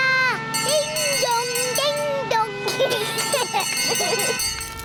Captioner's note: bell rings; children giggling; siren blares